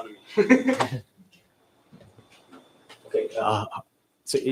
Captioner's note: laughs